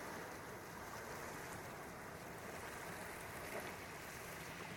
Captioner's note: lapping waves